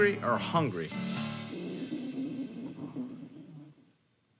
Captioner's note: stomach gurgling